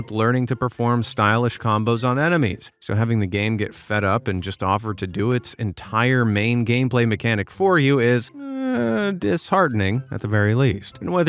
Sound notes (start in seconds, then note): 8.3 sighs